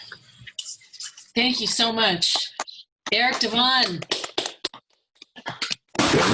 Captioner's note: applause